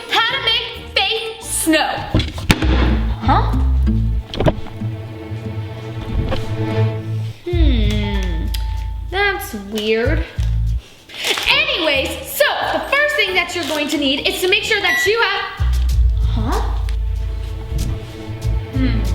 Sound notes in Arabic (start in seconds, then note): 2.2 يغلق باب خزانة; 4.0 موسيقى مشبوهة; 11.4 موسيقى لطيفة; 17.2 موسيقى مشبوهة